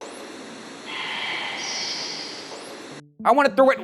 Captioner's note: voiceover